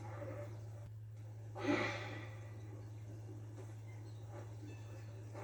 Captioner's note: zombie screams; angry sigh; music and footsteps